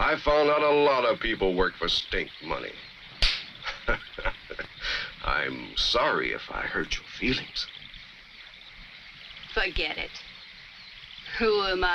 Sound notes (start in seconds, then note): 3.2 Jonelle slaps; 3.5 Bull chuckles